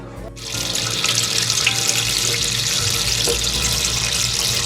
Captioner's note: water splashing